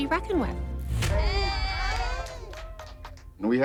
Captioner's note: cheering